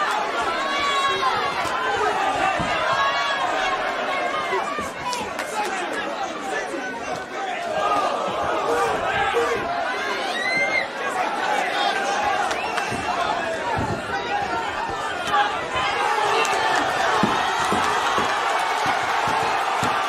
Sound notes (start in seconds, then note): 8.1 crowd; 16.0 crowd cheering and clapping